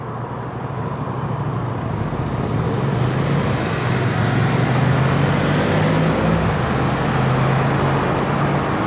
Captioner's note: traffic and street sounds